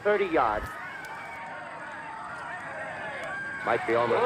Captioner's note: people screaming and indistinct chatter